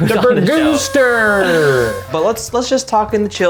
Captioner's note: party favor blasting